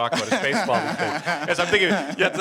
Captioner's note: laughing